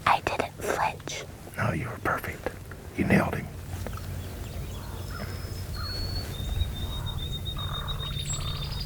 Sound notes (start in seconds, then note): 0.5 whispering